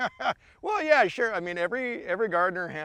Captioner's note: laughs